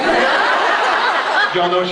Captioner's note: laughs